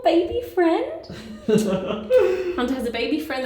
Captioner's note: laughing